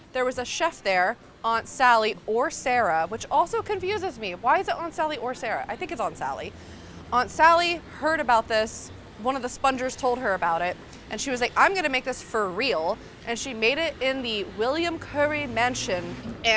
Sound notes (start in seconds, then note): none